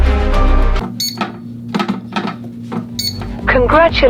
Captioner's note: buttons beeping